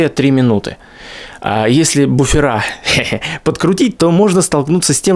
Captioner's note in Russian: хехе